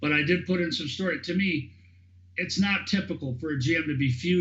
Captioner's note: laughing